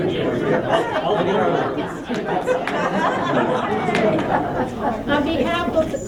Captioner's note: laughter